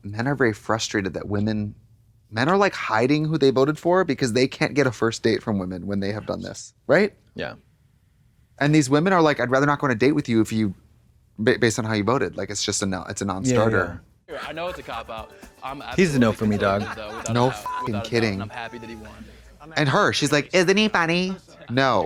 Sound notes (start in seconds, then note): 17.2 beep